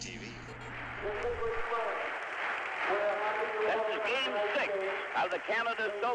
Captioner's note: applause